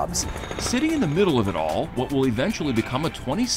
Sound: crane sputtering

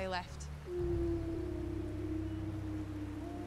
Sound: wolves howling

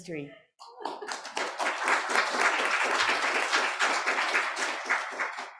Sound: applause

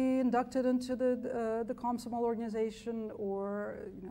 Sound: speaks foreign language

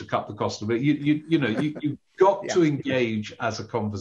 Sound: chuckles

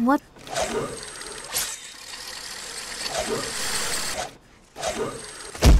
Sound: zipline whirring; thud

